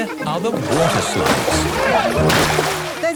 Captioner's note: laughing